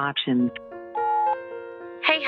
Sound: phone beeps

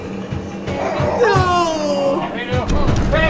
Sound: snarling

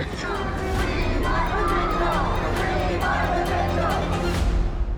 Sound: group chanting

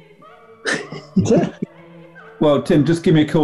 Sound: giggling

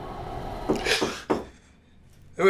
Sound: door knocks

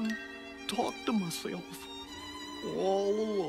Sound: voice sad

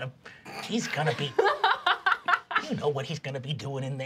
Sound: laughing

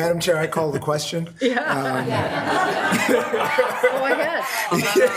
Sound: attendees laughing

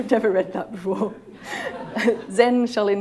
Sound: laughter

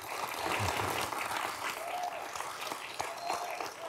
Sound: audience applauding

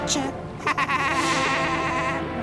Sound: evil laugh

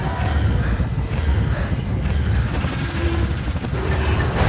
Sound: panting

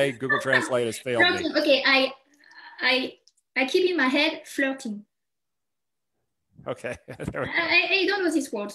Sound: chuckles

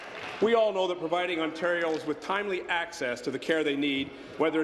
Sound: applause

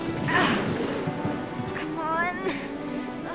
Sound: straining

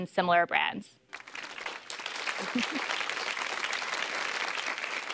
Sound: applause

